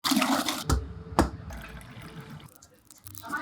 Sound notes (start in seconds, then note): 0.0 yolks sploshing; 0.8 cookie cutter thudding; 1.4 liquid burbling; 2.5 pastry crunching